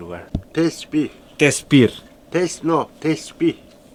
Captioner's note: Turkish